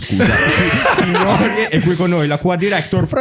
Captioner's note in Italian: laughter